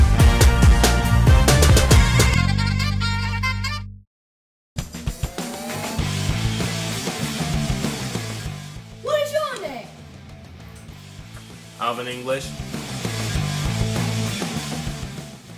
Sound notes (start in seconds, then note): 8.8 British accent